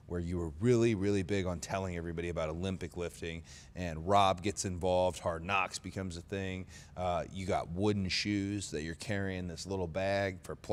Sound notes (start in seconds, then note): none